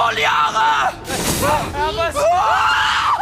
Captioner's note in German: schreit